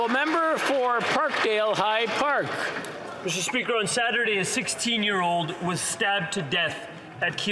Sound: some Applause

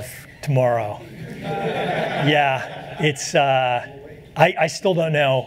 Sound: laughter

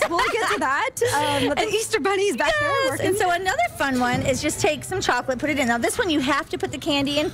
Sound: laughter

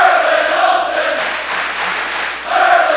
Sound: clapping

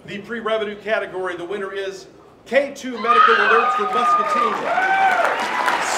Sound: applause; yelling

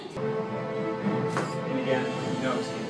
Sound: dramatic orchestral music; camera snapping

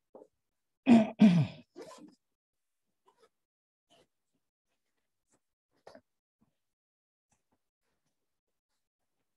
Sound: silence

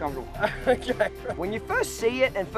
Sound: laughing

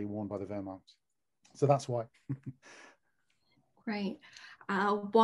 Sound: laughs

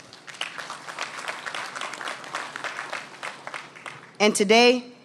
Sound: applause

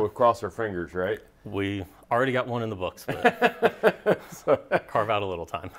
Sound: laughs

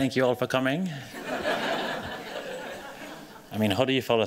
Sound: laughter

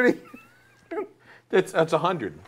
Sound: laughing

